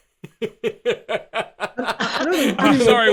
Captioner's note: laughing